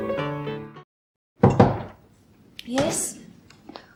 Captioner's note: knock at door